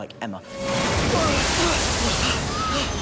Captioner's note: all grunt